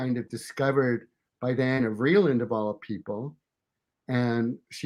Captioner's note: murmurs